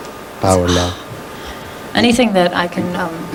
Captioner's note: sighing